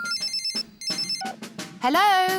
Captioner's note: phone rings